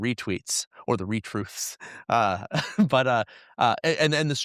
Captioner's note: chuckles